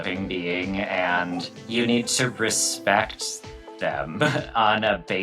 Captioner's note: chuckles